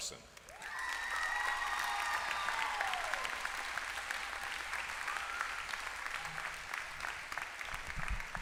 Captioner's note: applause